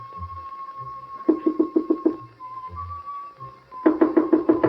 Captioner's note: knocking